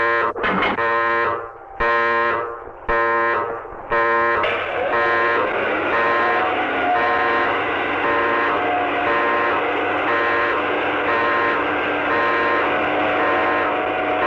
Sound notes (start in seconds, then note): 0.2 hatch clanking; 4.6 lifts whirring